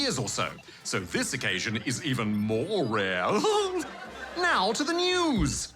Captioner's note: laughs